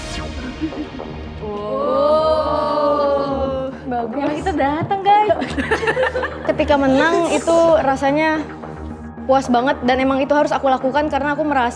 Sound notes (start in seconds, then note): 5.5 players chuckle